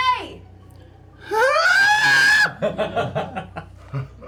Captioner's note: shrieks